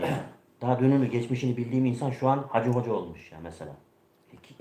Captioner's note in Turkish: boğazını temizler